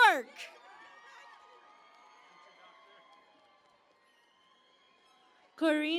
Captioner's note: cheering and Applause